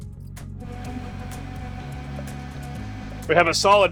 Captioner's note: blender whirring